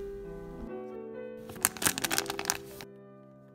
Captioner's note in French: bruit de sachet